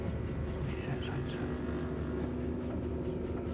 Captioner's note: man whispering